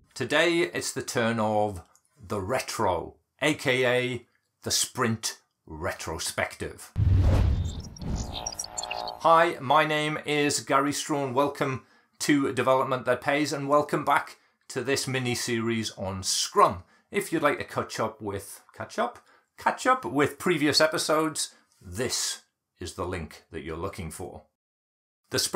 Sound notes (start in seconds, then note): 7.0 whooshing sound